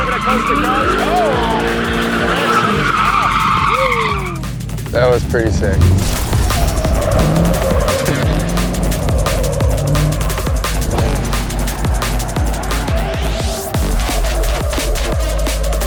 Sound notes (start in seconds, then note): 2.5 car engine revving; 3.3 tires screeching; 6.9 tires screeching